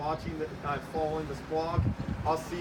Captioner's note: vehicle making noise